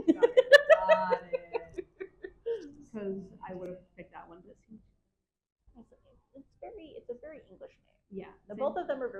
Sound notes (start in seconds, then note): 0.0 laughing; 5.7 faintly speaks